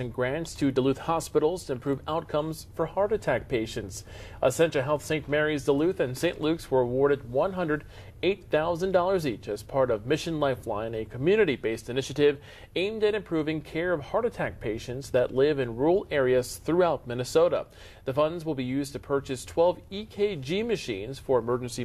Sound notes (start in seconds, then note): 7.7 voiceover